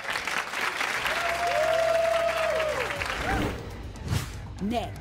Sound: audience applauding

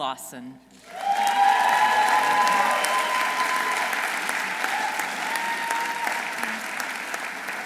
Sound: audience applauding; audience cheering

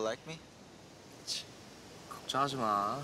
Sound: scoffs

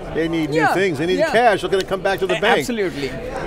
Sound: clap

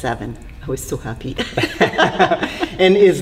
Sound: laughs

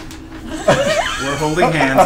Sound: all laugh

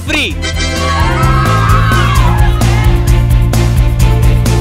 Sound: cheering in happiness

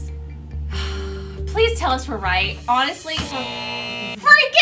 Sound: sigh; buzzer buzzes

